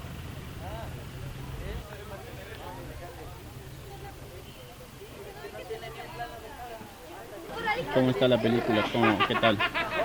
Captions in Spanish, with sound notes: *Gente hablando* Cómo está la película. Qué tal?